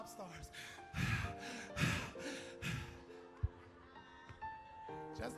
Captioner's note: breathing heavy